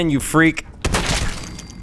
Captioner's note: blam!